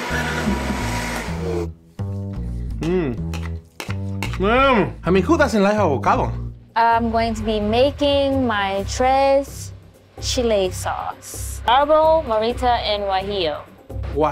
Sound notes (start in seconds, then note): 0.0 blender running; 1.4 jazzy music; 3.7 spoon scraping